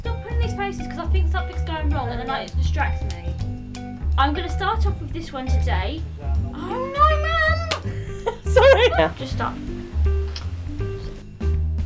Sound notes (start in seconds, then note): 6.5 voices heard nearby